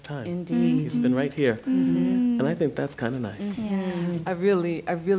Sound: others agreeing

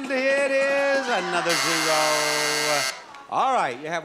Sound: sound effect buzzes

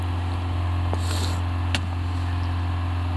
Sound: sniffles

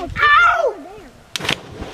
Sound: rope creaks; splash

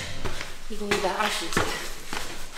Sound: steps

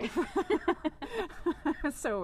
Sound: laughter

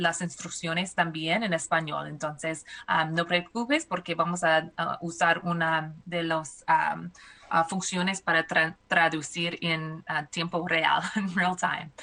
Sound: speaking spanish

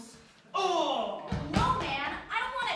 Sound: fight noises

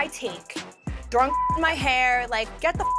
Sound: beep

